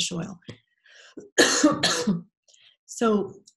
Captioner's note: coughing